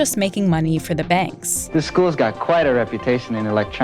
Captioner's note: soundbite of archived recording